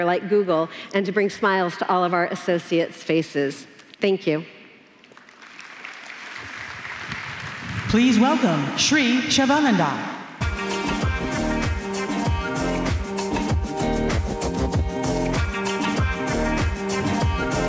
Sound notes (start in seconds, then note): 5.0 applause